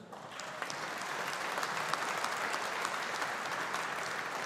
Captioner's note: audience applauding